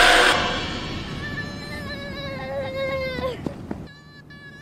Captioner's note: door creaking; kid screaming